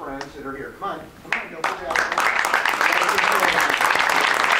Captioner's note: audience claps